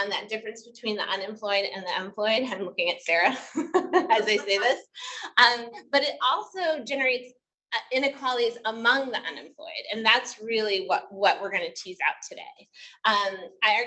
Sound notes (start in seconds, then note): 4.0 laughing; 4.2 audience member laughs